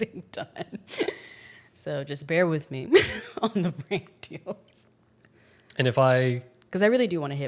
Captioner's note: laughs